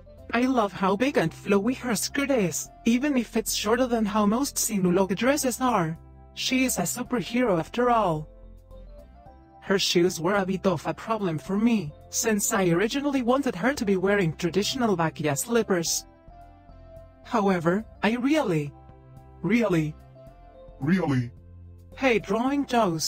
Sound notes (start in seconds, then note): 19.7 slightly deeper